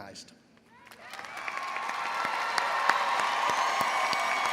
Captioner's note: all applauds